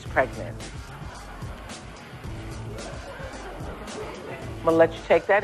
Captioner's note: audience reacts